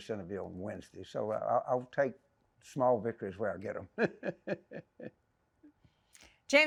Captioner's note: laughing